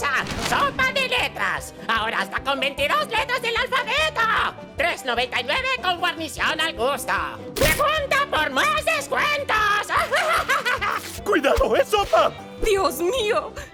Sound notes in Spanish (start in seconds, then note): 9.8 Risa desquiciada